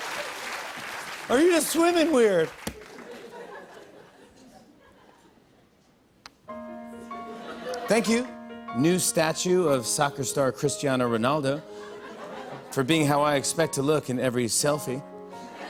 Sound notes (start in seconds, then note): 2.5 light laughter; 5.6 soft piano music plays; 15.4 laughter